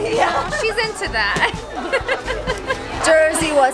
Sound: laughing

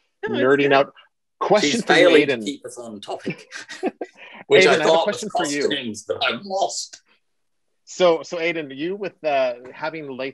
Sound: laughter

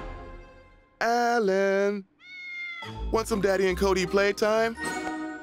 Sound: cat meows

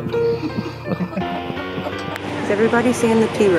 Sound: laughing

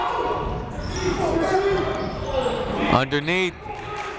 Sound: shouting

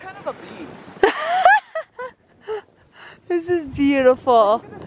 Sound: laughing

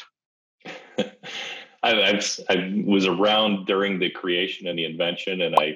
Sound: laughs

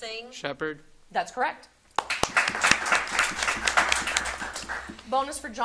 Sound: audience applauding

